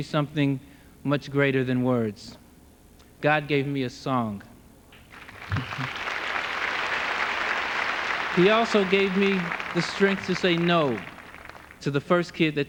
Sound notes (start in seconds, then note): 7.0 applause